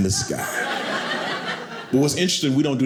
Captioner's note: audience laughing